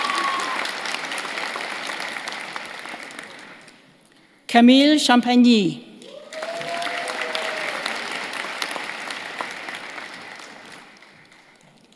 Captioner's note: cheers and applause